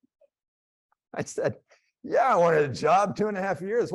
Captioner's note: laughs